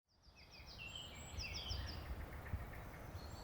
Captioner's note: birds chirping